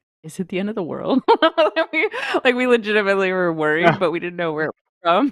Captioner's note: laughs